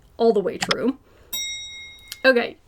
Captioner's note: bell dings